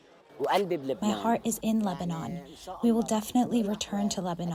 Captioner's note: through translator